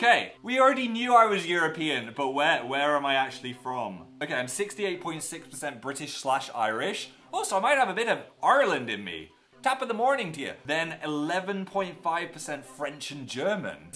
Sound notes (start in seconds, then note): 8.5 Irish accent; 9.3 in irish accent